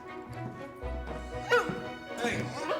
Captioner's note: barks